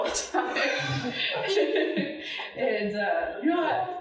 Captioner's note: audience laughing